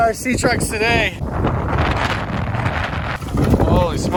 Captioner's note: wind blowing